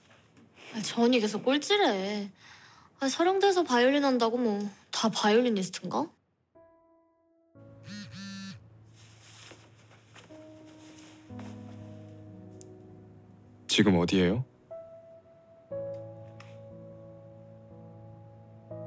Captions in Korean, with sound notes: -저 언니 계속 꼴찌래. 아니, 서경대에서 바이올린한다고 뭐 다 바이올리니스트인가? -(휴대전화 진동음) -지금 어디예요?